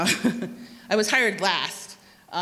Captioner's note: chuckles